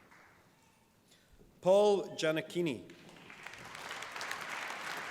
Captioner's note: applause